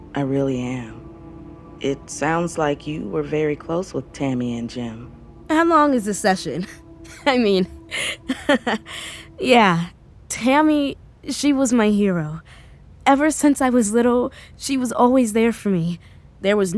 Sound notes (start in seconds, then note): 7.9 she laughs a little